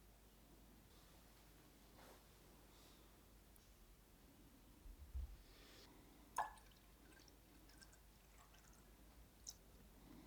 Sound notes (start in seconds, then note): 6.3 solution trickling